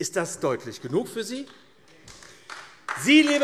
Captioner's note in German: Beifall AfD